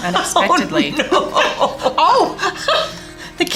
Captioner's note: laughing